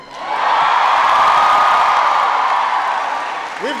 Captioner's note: applause